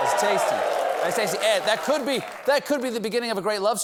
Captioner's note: cheering